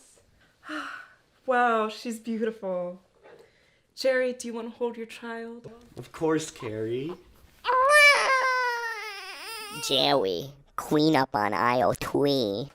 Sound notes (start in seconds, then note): 7.6 baby crying